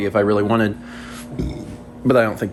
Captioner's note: burp